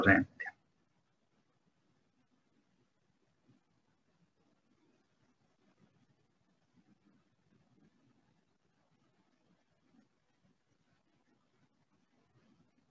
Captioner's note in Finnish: hiljaisuus